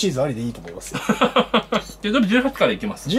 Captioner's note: laughter